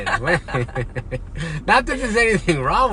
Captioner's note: laughs